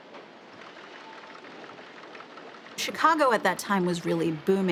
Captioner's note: printing pressing humming